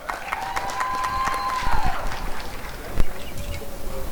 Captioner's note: applause and cheering